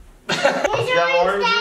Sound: laughter

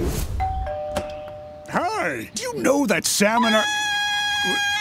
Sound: screams

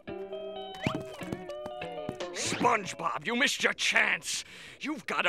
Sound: none

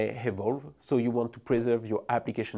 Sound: text whooshing

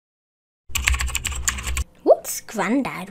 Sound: typewriter

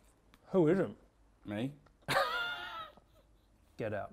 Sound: laughs

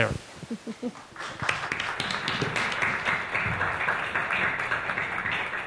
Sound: audience applauds

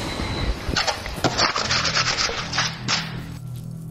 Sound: dramatic music playing; scraping

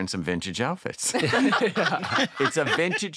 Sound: all laughing

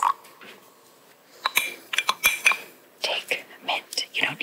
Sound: pouring; clattering

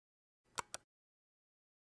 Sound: click

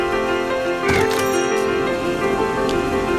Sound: chime

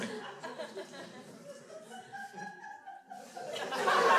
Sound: crowd laughs

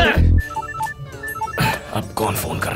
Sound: phone ringing

